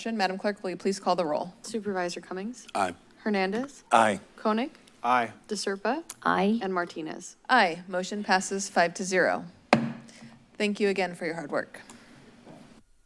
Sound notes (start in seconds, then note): 9.7 gavel thumps